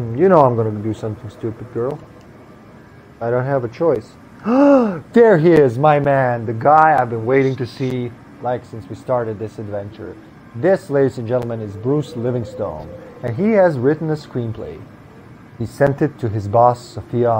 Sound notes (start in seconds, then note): 4.4 gasps